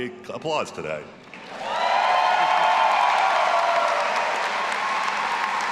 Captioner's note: all applauding and cheering